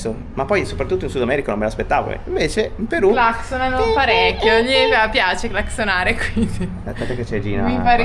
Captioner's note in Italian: risate